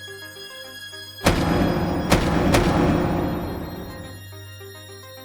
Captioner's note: loud banging